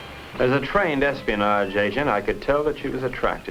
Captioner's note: whooping